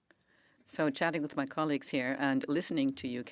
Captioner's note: speaking French